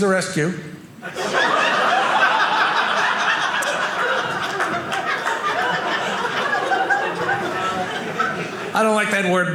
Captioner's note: audience laughing